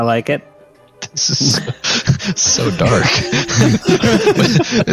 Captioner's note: laughs